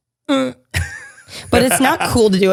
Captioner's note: laughs